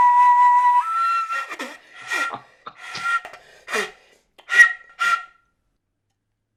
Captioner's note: tittering from the others